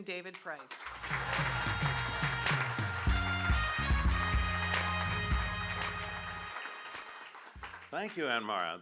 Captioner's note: applause